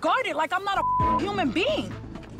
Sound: beep

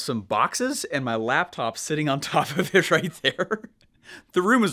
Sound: laughing

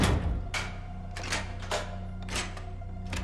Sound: multiple locks clicking

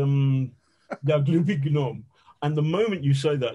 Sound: speaking in Russian

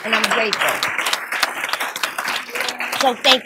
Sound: applause

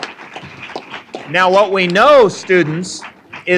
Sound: applause

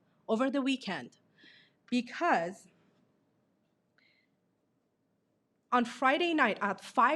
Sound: none

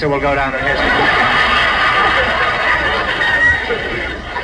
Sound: audience laughs

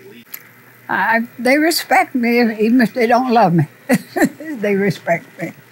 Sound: laughs

